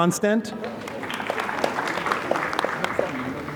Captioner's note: applause